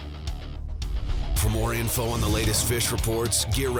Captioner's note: voiceover